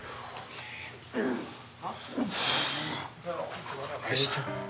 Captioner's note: grunting